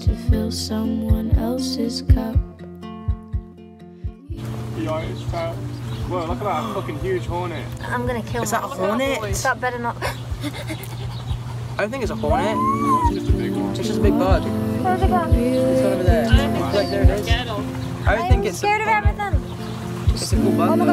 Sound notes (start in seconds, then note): 10.1 gasps; 12.3 whimpers